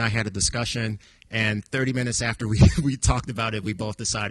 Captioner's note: chuckles